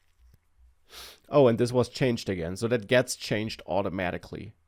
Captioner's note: sniffing